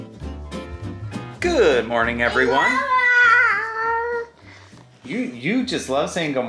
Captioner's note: babbling